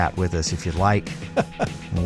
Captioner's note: laughing